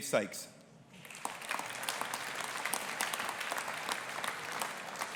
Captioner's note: audience applauding